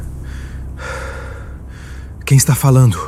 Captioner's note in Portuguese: suspirando